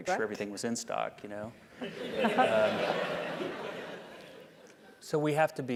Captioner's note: laugh